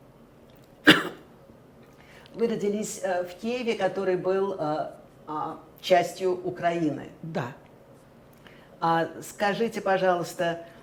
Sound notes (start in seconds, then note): 0.8 coughing